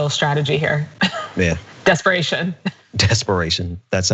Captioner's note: laugh